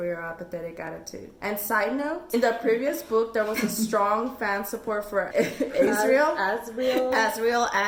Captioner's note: laughs